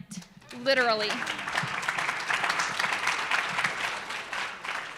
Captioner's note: audience applauds